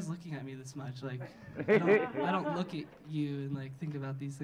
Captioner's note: audience laughing